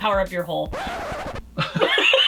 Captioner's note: record scratching; laughs